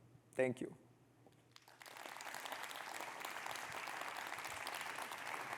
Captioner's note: audience clapping